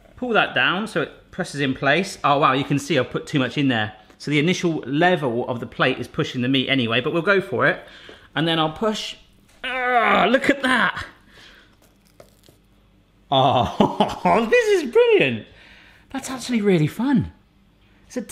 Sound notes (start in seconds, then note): 9.6 groans